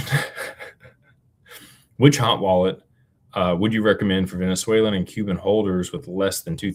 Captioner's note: laughter